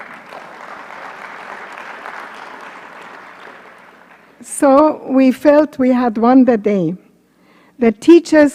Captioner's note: applause